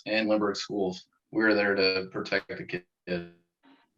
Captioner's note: audio blurs